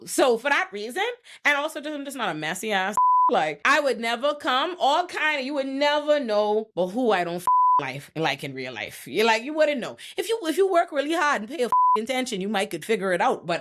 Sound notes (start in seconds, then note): 2.9 beep; 7.4 beep; 11.7 beep